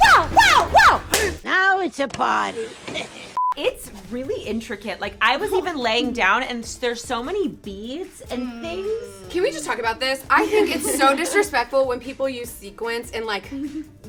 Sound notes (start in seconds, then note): 3.4 laughs; 3.4 beep